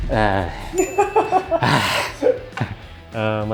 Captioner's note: frustrated noises